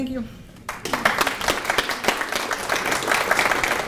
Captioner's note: applause